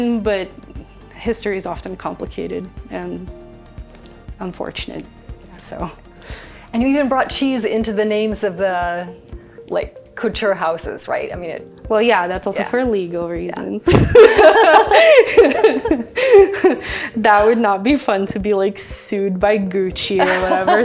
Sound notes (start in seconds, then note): 13.8 both laughing